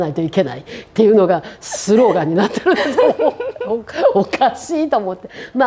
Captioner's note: laughs